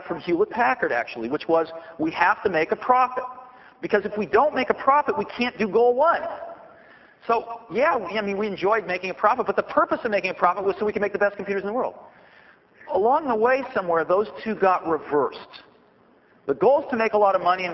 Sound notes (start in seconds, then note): none